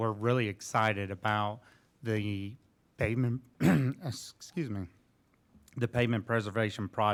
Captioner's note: clearing throat